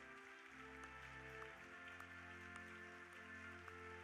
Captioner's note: audience applauding